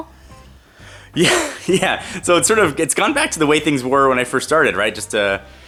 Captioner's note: laughs